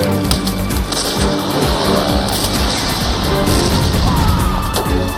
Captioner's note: gunfire